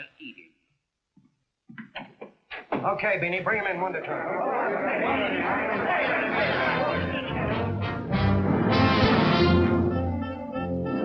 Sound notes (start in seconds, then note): 3.5 angry chattering; 6.3 whimsical big band music